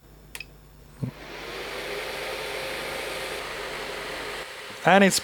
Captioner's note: vacuum whirring